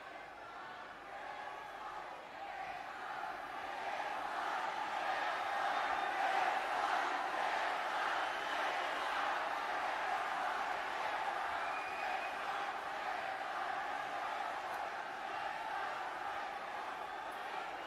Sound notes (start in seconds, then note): 13.2 cheering/Applause